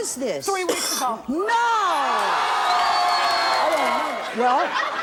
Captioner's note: audience exclaims